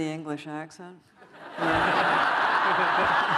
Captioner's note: laughter